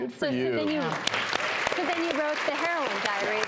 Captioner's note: applause